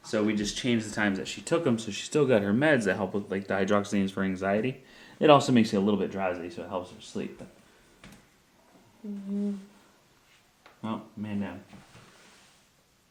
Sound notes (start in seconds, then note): 9.2 mumbling